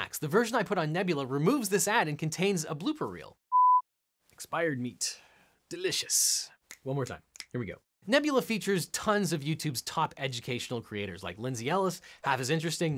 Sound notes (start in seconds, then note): 3.5 beeps; 7.3 fingers snapping